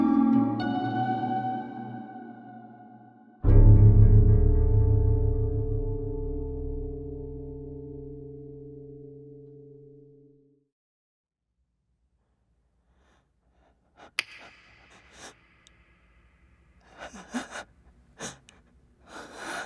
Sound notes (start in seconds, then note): 15.0 deep unsettling breathing